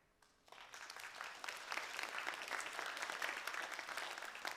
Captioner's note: applause